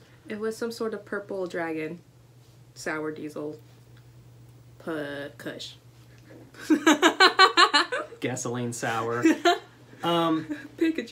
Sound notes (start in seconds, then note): 6.6 laughter; 9.9 laughter